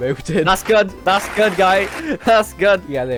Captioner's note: applause